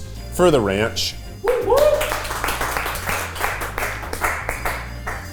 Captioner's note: cast applauding